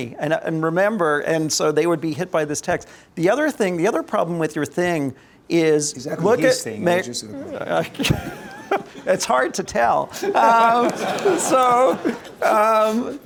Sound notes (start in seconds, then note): 7.3 laughs